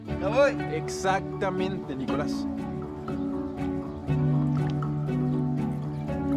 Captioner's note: Nick speaks in foreign language; Lion speaking in foreign language